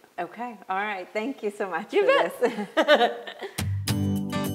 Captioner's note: chuckles; upbeat music